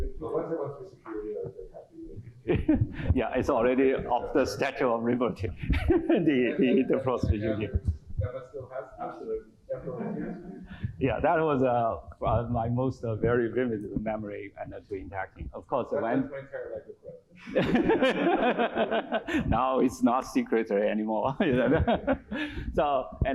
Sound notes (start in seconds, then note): 17.4 laughter